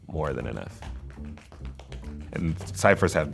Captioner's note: shoes tapping